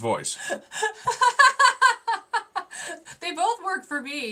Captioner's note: laughing